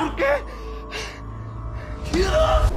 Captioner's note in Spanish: Respiro desesperado